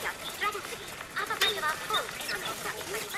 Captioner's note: foreign speech